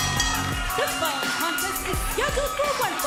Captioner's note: bell ringing